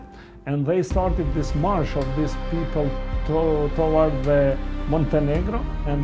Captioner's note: Kosovar Albanian